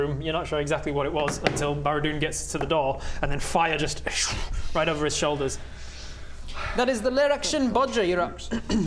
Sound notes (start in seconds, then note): 4.0 schhhh